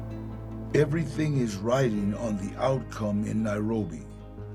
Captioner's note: in English